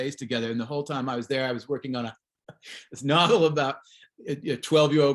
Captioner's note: chuckles